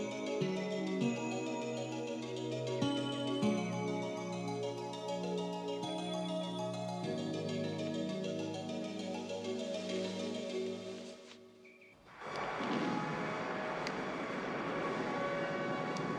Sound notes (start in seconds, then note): 12.2 drive-in movie playing